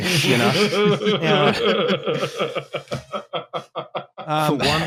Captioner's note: laughter